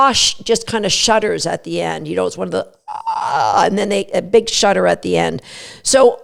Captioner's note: big yawn sound